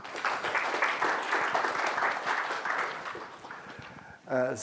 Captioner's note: audience applauds